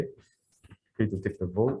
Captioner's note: none